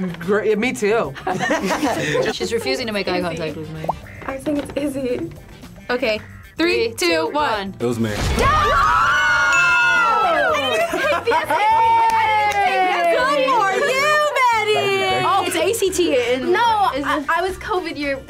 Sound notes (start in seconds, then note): 0.0 laughs; 1.1 group laughs; 8.4 group screams